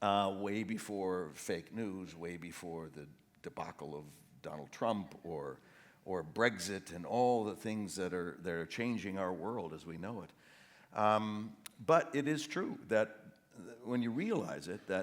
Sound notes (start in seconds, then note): none